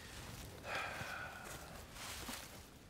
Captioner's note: sighs